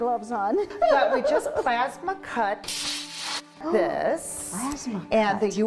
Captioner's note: laughs